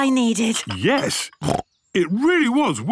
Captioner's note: snorts